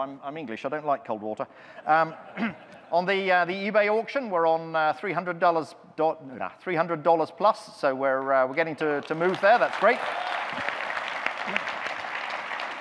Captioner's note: audience clapping